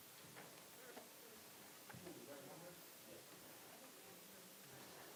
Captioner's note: audience chattering softly